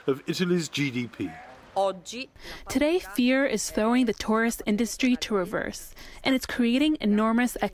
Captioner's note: through translator